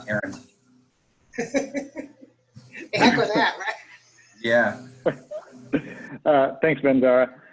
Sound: laughter

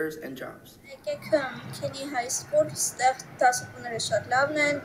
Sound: speaking in Armenian

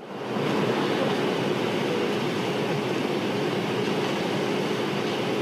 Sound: background noise, static

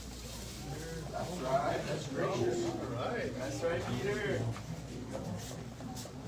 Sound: indistinct chatter

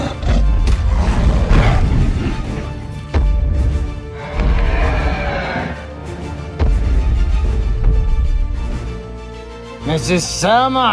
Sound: growling With Loud Stomping Sounds

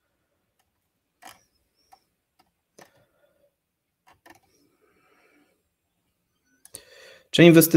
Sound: silence

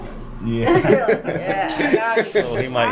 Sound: everyone laughs

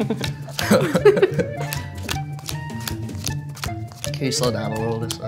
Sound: audience laughs

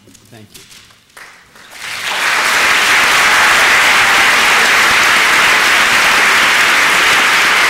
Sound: applause

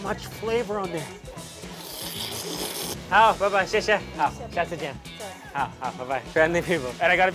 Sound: speaks in Chinese; slurping sounds

